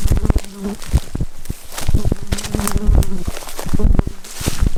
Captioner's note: buzzing mosquito